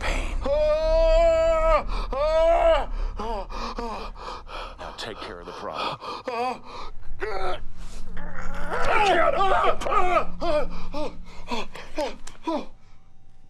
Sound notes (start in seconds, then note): 0.2 screaming, panting; 6.8 straining